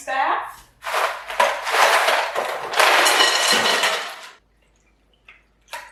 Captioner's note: ice cubes rattling around